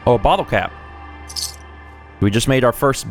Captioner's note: ka-clink